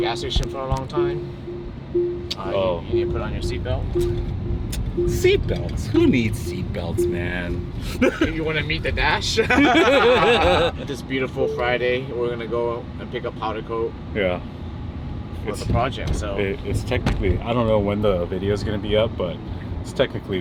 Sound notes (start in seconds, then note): 9.4 laughing